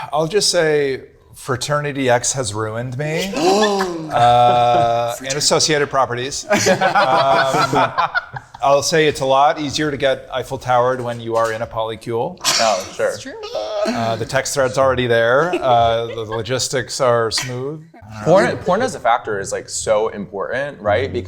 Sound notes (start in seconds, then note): 3.3 gasps; 6.4 group laughing